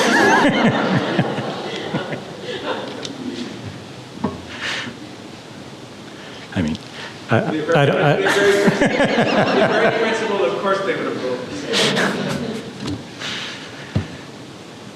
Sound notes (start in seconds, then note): 0.0 laughter; 7.2 audience laughing drowns out speaker